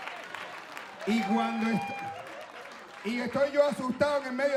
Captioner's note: audience laughing and clapping; speaking Spanish